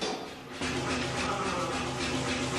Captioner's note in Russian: шум кузницы